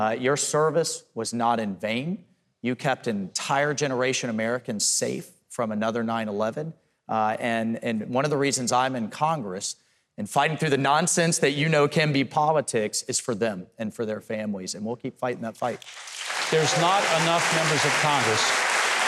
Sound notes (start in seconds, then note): 15.7 audience clapping and cheering